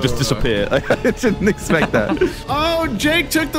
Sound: laughs

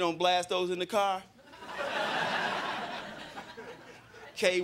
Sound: crowd laughing

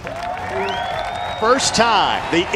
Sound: crowd cheers

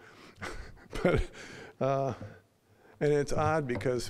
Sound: chuckling

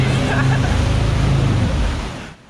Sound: laughing

